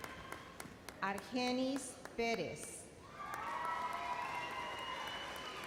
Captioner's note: audience cheers